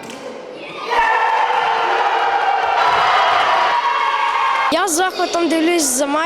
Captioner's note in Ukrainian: радісні крики дітей